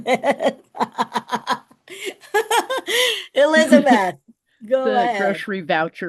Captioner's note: laughs